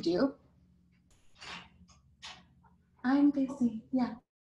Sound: laughs

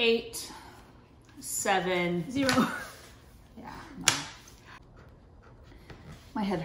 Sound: laughs

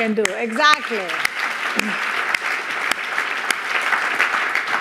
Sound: audience applauding

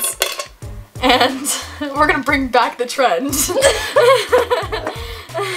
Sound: laughs

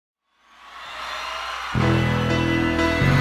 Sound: crowd cheering; upbeat rock music

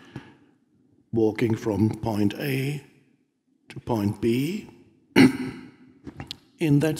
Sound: clears throat

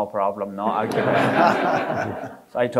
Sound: audience laughing

